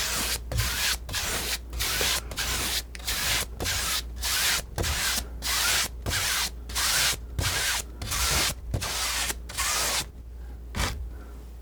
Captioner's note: scratching